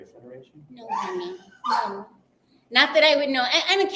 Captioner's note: dog barking